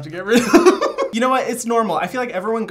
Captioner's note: laughing